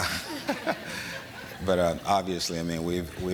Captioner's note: laughter